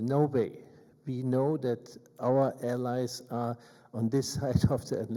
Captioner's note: chuckles